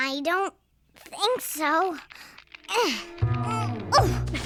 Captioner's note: growling and giggling